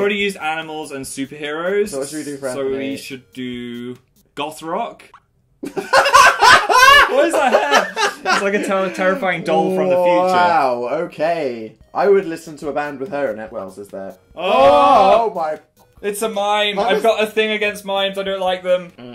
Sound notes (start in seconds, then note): 5.7 laughing